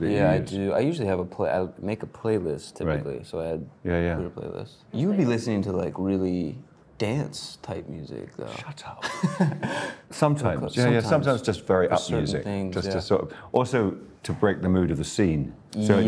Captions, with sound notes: - That you use? - Yeah, I do. I usually have a play, I make a playlist typically. So I had a playlist. - Yeah, yeah. - You'd be listening to like really dance type music though. - Shut up. (Drew laughs) Sometimes. Yeah, sometimes just very up music. - Certain things. Yeah. - Just to sort of, also to break the mood of the scene.